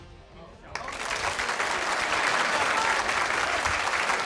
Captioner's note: crowd laughing